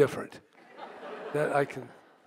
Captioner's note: audience laughs